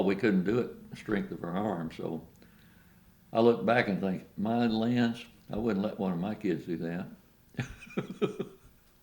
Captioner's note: laughs